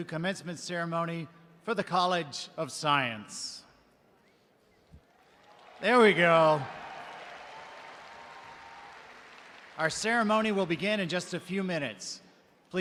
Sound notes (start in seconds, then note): 7.3 audience cheering